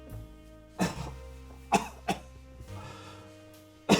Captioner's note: coughing